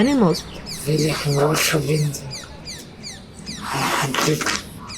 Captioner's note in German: auf Schweizerdeutsch